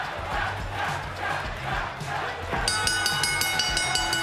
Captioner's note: fans chanting; bell